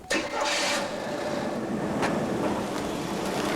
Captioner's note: engine starts